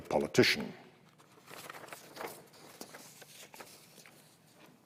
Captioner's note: papers crackle